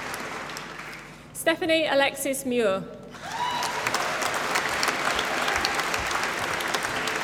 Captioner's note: applause